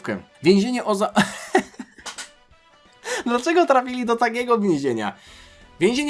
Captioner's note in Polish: śmiech